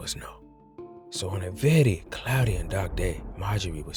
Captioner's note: distant thunder